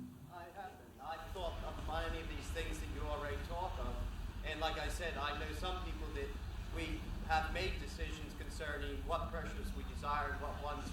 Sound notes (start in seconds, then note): none